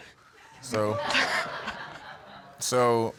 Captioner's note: laughing